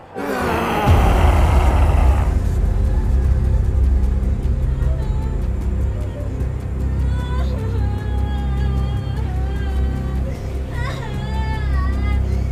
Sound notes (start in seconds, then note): 0.7 dramatic music; 4.6 woman sobbing